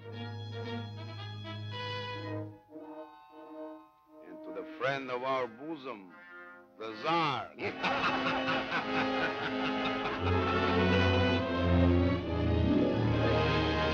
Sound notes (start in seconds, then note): 0.3 dramatic music; 7.6 all laughing; 11.1 dramatic music